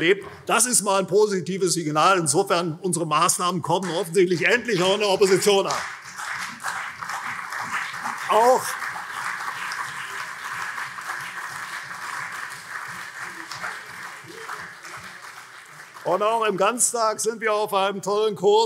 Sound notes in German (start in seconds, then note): 6.1 Beifall CDU und SPD